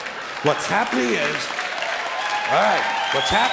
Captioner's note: clapping and cheering